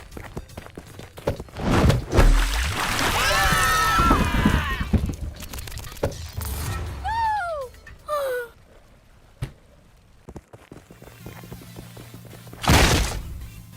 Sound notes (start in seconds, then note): 3.0 screaming; 8.0 sigh